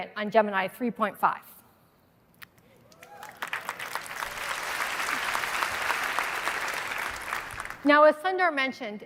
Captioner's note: applause